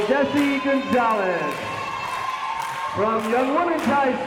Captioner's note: crowd members cheering